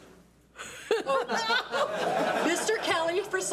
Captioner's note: board members and attendees laugh